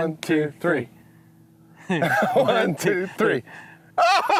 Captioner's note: laughter